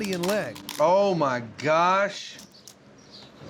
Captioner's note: cracking